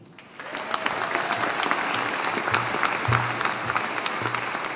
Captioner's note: audience applauding